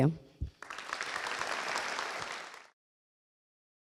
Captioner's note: applause